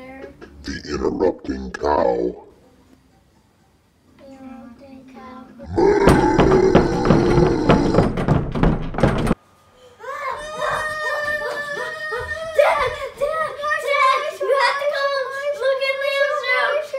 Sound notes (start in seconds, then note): 5.7 knocking on doors; 10.4 screaming